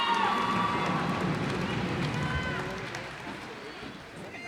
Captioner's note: cheers and applause